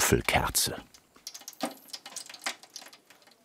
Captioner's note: sizzling